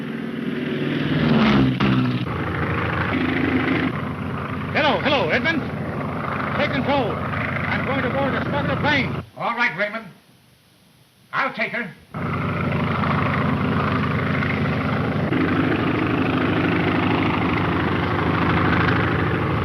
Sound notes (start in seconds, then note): 0.3 engines droning; 12.1 engine roaring